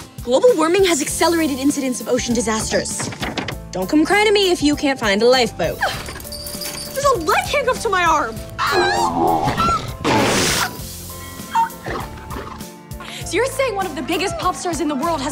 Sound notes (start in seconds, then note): 8.6 screaming; 9.3 sneezing